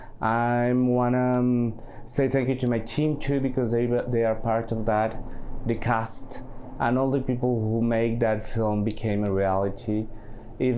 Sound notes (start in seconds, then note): none